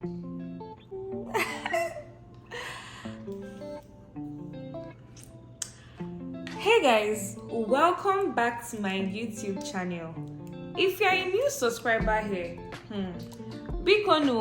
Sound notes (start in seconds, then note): 1.2 laughs